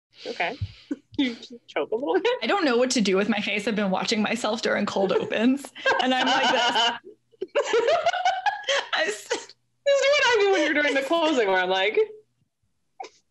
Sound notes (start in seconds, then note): 5.7 laughs; 7.3 giggles